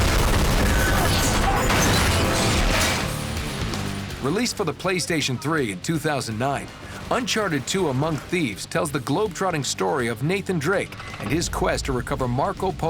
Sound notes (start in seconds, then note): 0.0 explosion; 2.3 crashing